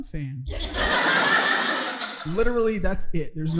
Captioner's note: audience laughing